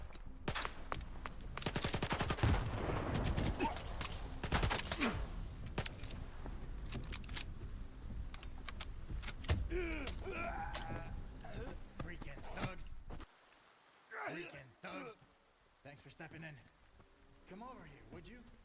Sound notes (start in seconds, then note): 1.6 gunshots